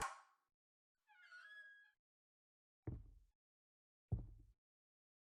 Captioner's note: door hinge creaking